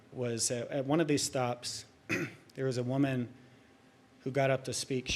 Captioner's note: clears throat